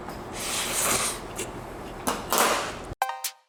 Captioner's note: slurps